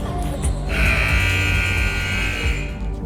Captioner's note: buzzer buzzing